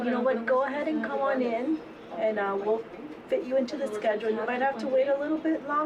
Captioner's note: people chatting